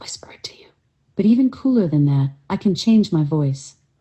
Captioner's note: whispering; speaking at normal volume